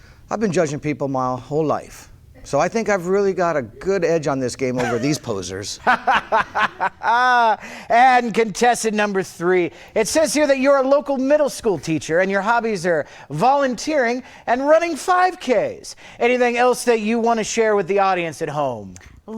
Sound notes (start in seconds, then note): 5.8 laughs